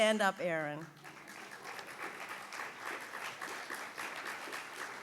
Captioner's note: audience applauds